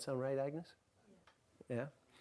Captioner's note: voiceover